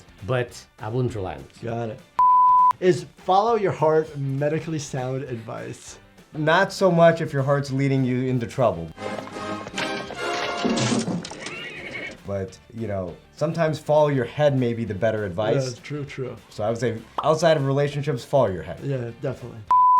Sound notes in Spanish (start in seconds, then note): 9.2 música triunfal; 11.2 caballo relincha; 19.7 suena un pitido